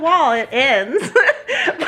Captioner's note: laughs